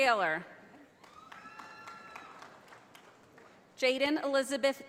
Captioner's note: audience applauding